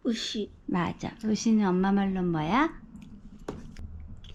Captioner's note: Korean